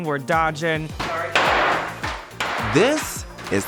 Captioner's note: boards clattering